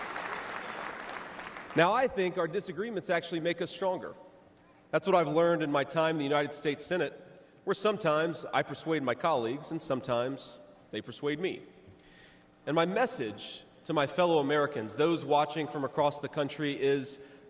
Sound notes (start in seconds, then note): 0.0 applause